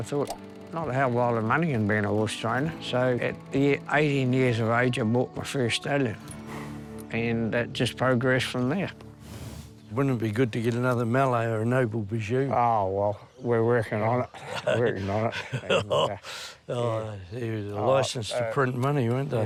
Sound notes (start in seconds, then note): 14.2 laughs